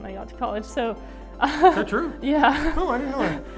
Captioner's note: laughs